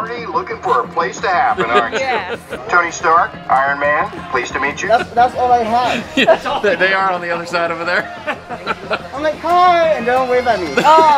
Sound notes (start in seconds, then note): 1.4 laughing; 7.2 laughing